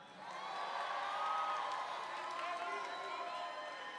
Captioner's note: audience cheering